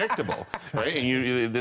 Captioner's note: laughter